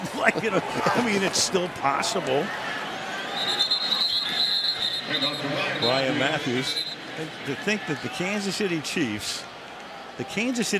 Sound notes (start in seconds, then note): 0.0 chuckles; 3.1 whistle